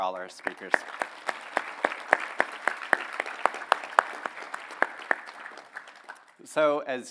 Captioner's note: applause